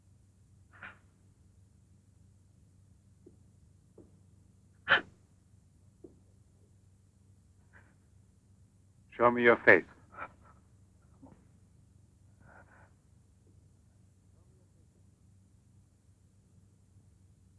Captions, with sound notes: (gasps nervously) - Show me your face.